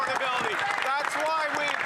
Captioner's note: some Applause